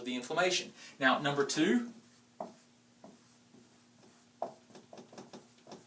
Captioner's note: tapping